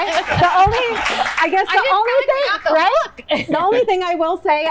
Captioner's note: applause